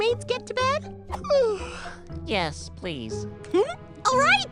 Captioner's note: yawns